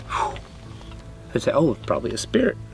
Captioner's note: mouth blowing